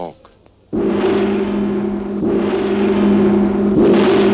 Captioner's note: gong crashing